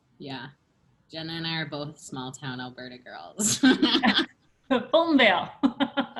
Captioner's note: laughter